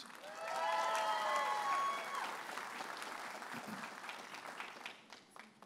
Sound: audience applauding and cheering

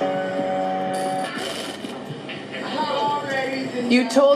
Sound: static crackles

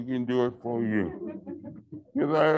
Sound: laughter

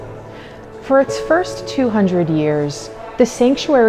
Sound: people chatter

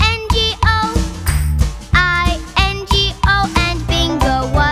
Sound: clap

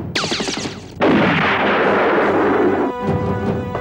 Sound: explosion

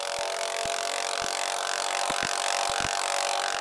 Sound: rattling

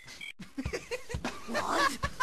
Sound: laughing

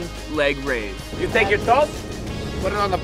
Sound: imitating mexican accent

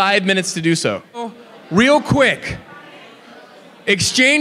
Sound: audience chatting

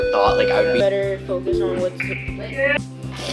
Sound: beeping

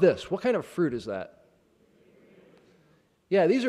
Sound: chattering

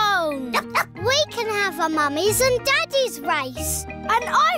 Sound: barks

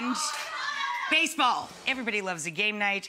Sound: crowd shouting

